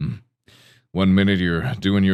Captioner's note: inhales